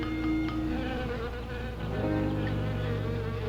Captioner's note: buzzing